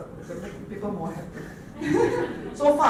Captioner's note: laughter